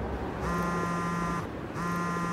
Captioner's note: phone rings